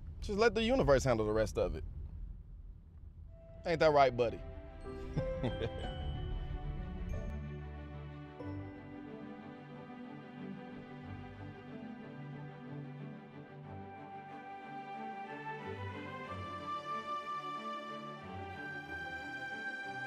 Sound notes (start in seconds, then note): 5.0 chuckles